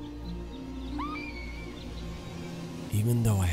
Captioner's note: woman screaming